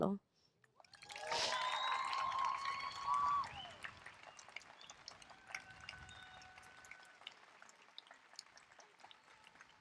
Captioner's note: applause and cheering